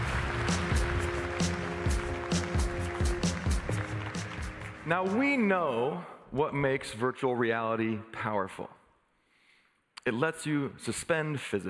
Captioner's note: applause